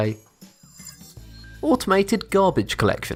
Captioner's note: futuristic ringing